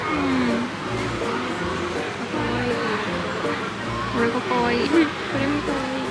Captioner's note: laughs